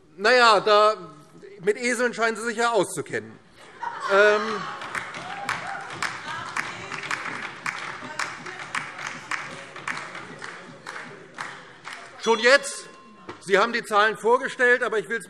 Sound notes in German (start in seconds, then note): 3.6 Heiterkeit und Beifall DIE LINKE und vereinzelt SPD